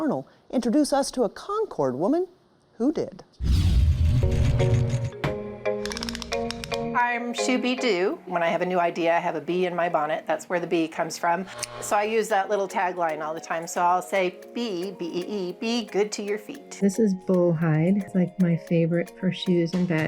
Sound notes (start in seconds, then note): 4.7 pleasant music; 5.8 gadget clacking